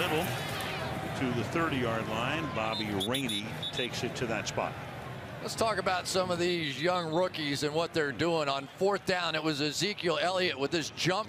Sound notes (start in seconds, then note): none